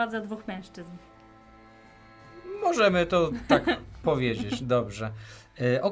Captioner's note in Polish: śmiech